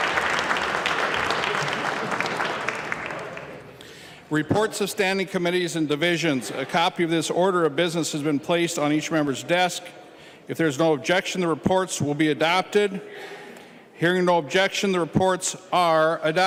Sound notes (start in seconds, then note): 4.5 applause